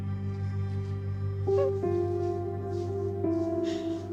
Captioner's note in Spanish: Sollozo